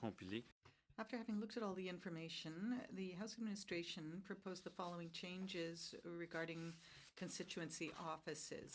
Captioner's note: speaking french